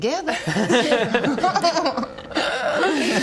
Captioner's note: tempted giggle